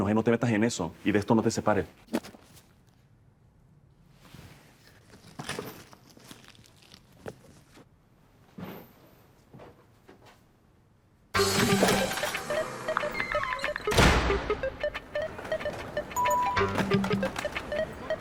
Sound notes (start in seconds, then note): 13.0 door closes